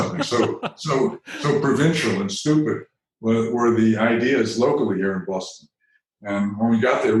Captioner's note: chuckle